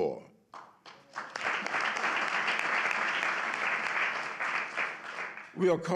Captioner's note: applause